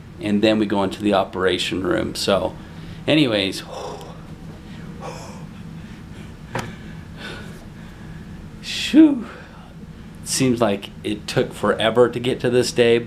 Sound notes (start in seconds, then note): 4.6 exhaling